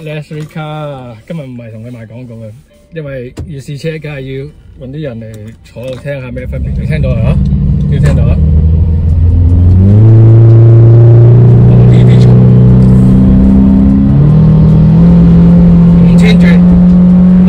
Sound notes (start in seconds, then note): 5.3 engine noise; 9.3 engine; 11.3 engine noise